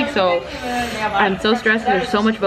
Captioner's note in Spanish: inhala con fuerza